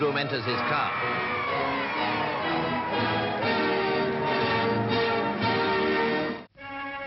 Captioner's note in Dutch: publiek juicht